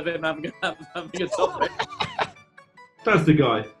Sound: laughing

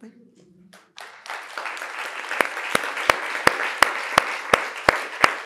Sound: audience applauding

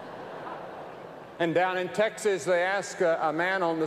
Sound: laughter

